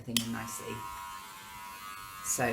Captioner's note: buzzing